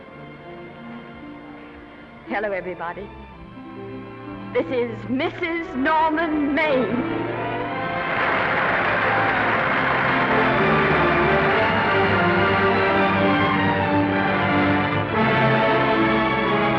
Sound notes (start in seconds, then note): 7.0 audience applauding; 7.6 orchestral music